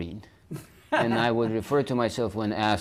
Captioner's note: laughs